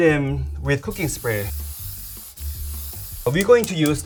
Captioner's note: spray can shushing